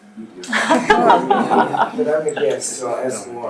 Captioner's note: audience laughs